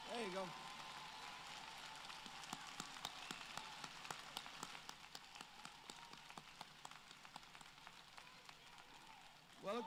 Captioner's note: applause